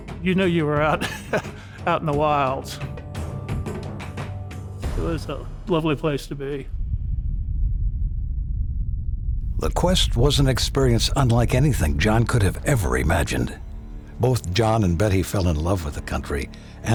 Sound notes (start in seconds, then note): 4.1 laughs; 7.1 herd running